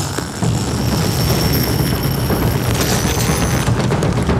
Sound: zipper unzipping; intense drumming music

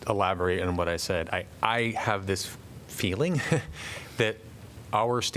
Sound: laughter

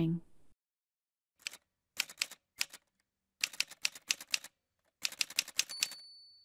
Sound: typewriter sounds

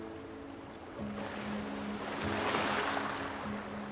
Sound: waves crashing

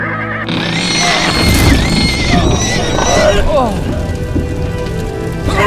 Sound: hidden Wooden floor breaking by weight of horses and riders

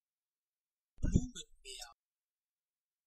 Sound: fast Pronunciation

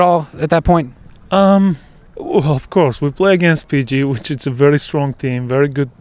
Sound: laughing

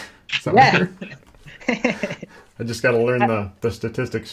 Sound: laughs

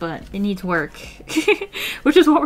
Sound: laughs

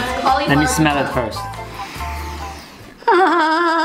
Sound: quirky music; inhales deeply; moans loudly

